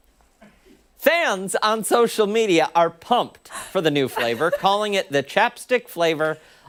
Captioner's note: laughter